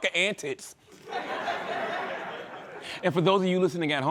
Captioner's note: laughter